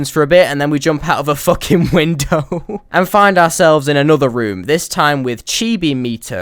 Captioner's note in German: Lachen hört auf